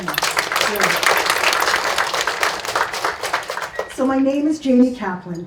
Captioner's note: audience claps